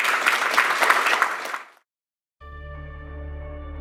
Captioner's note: clapping